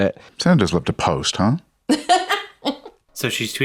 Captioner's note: laughs